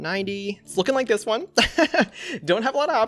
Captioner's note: laughs